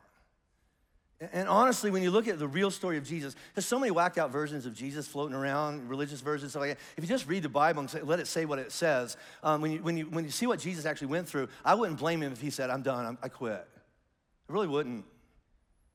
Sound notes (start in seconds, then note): none